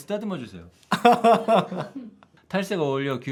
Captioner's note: patting